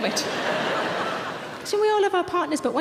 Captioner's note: audience laughing